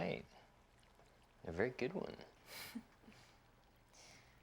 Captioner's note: risas